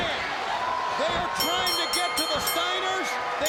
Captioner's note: bell ringing